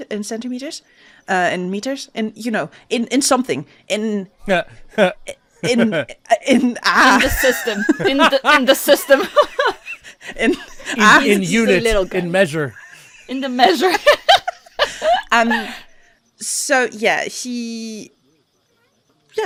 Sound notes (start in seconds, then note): 3.2 laughs; 9.5 laughter; 15.6 laughs